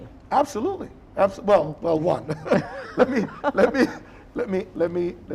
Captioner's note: laughing